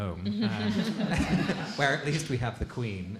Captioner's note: laughing